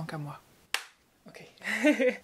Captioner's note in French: clap